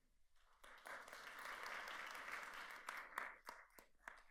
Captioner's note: audience applauds